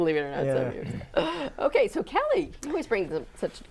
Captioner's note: laughing